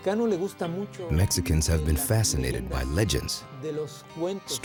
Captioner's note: in Spanish